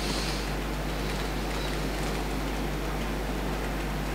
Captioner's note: breathes deeply